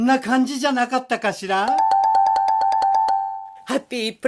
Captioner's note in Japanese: 擬音